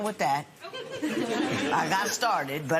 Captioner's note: laughter